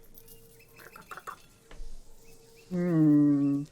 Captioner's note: squawking